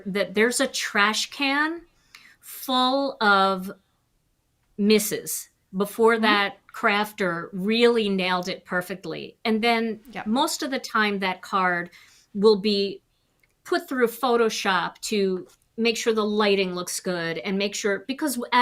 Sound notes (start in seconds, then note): none